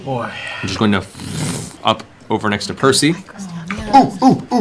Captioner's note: flame crackling